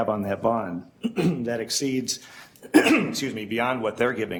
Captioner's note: clears throat